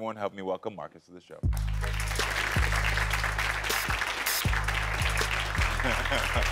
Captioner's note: light airy music; audience applauding; laughs